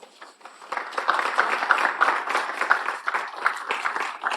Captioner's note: audience clapping